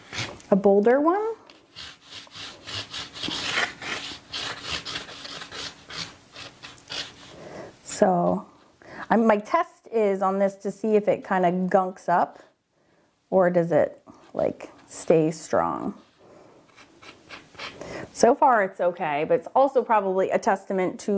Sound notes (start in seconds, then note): 1.6 pen scrapes